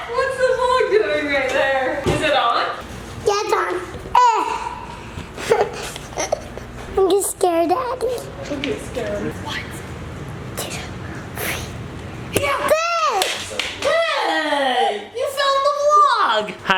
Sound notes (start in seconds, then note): 5.4 laughs